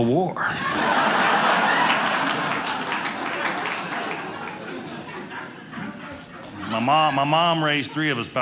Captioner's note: audience laughing